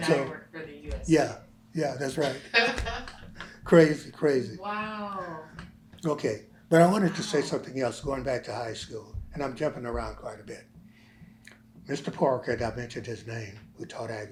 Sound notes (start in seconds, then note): 2.2 laughter